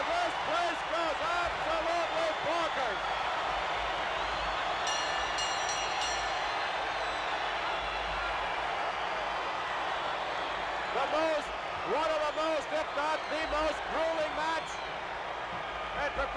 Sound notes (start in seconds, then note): 4.8 bell rings; 5.2 crowd cheers